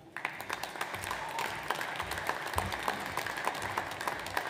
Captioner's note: audience applauds